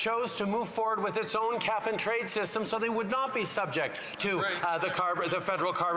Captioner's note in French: voix de l'interprète